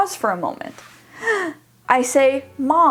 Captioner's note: gasping